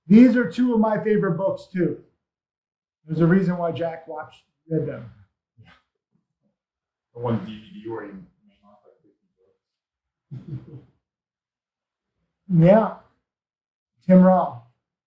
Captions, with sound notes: These are two of my favorite books too. There's a reason why Jack watched. (speaks faintly) - I want a DVD (speaks faintly). (laughs softly) - Yeah, Tim Rob,